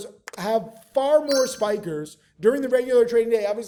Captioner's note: bell chimes